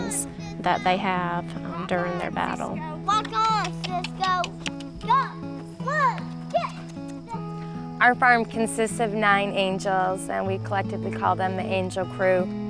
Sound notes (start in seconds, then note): 4.4 tongue clicking